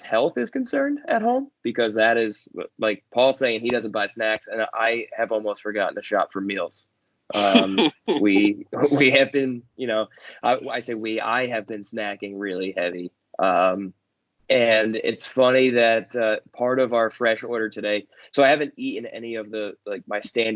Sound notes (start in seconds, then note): 7.4 laughter